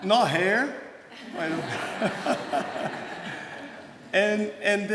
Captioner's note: laughter